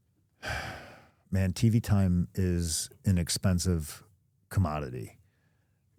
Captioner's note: sighs